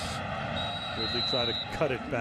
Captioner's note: whistle blows